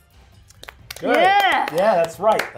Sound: participants clapping

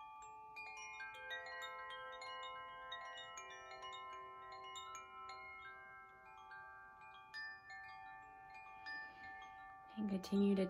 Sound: chimes

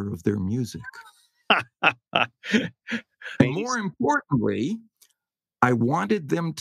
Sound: laugh

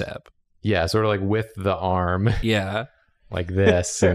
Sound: laughs

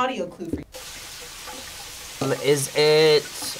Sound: water running

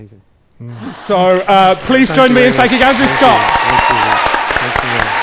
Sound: audience cheers & applause

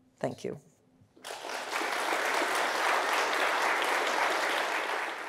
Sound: audience applauding

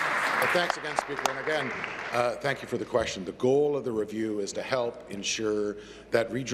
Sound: applause

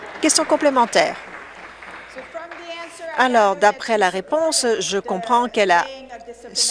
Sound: some Applause

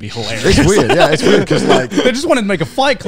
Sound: laughing

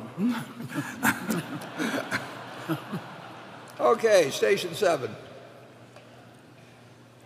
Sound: laughter

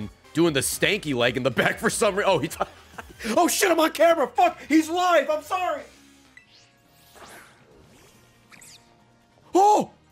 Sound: laughs

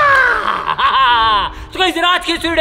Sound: laughing

